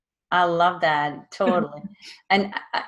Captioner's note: laughing